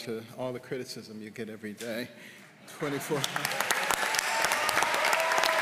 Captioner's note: applause